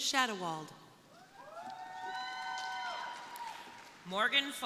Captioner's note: crowd cheering